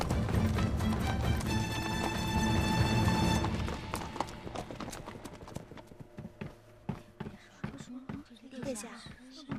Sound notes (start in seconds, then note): 0.0 horse galloping